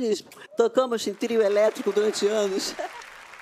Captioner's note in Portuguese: aplausos